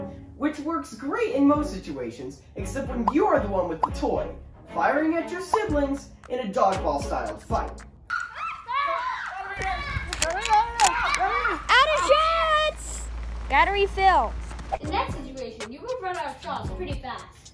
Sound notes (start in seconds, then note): 8.1 yells and screams